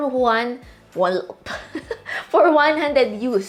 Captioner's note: chuckles